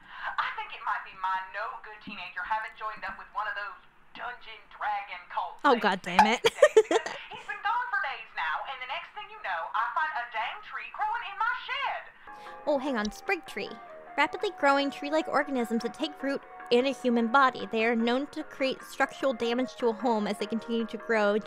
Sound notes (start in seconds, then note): 6.2 laughs